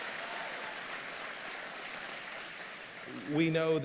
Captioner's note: applause